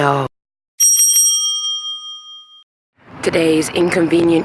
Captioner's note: bell rings